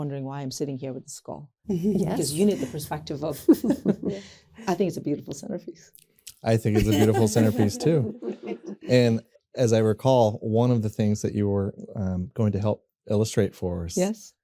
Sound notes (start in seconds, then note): 3.4 laughter